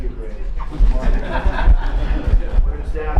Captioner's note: laughter